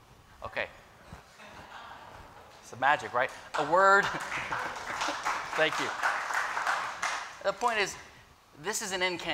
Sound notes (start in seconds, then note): 3.1 applause